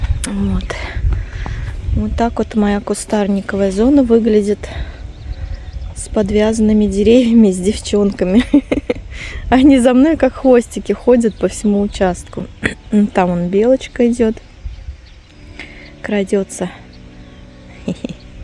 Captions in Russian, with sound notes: Вот. Вот так вот моя кустарниковая зона выглядит с подвязанными деревьями, с девчонками. [смех] Они за мной как хвостики ходят по всему участку. Там вон белочка идёт, крадётся.